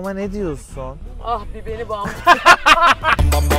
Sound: laughter

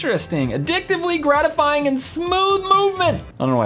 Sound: shouts

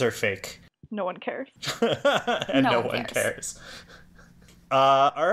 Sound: laughs

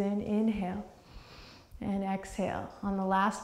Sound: deep breath

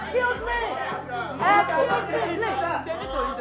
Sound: chatters

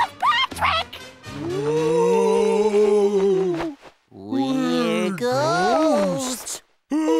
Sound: moaning; moaning

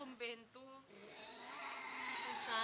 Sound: pig squealing

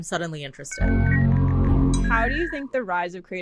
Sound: internet dialing up

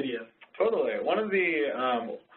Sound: voiceover

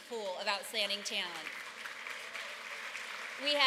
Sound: applause

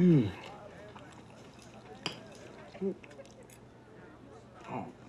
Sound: chewing loudly

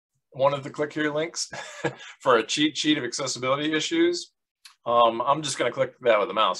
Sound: laughs

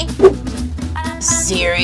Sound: whoosh

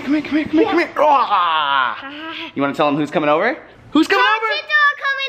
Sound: grunts

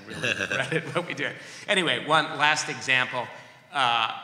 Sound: laughter

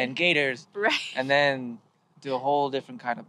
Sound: she chuckles

